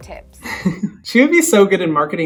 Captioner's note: laughs